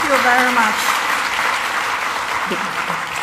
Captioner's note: applause